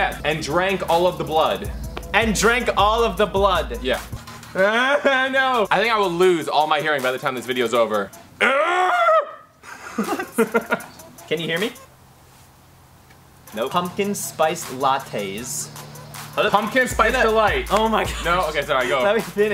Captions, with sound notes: - Yeah, and drank all of the blood. - And drank all of the blood. - Yeah. (moaning) No, I think I will lose all my hearing by the time this videos over. (groans) (laughs) - Can you hear me? Nope, pumpkin spice lattes. - Pumpkin spice delight. - Oh my God. - No okay, sorry, go.